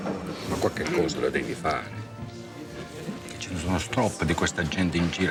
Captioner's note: Vito speaking foreign language